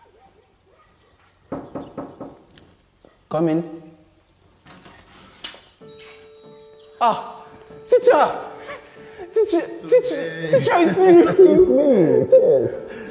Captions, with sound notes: (Knocks on the door) Come in. Ah! Teacher! Teacher! - Tunde. Teacher, it’s you. It’s me. Yes.